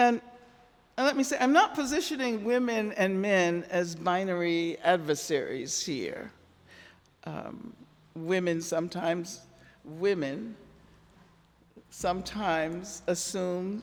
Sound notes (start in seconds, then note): none